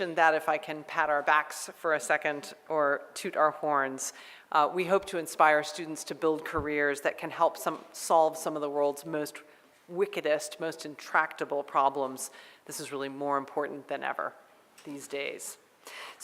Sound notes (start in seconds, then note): none